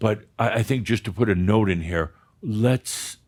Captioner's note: none